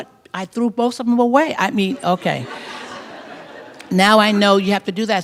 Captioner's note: laughter